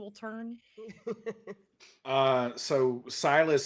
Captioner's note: person laughing